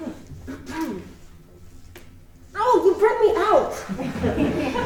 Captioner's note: clears throat